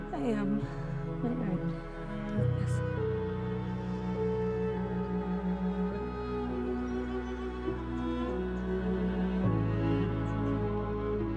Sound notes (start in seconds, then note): 0.0 gentle music; 3.1 gentle music; 5.6 birds chirping; 8.6 gentle music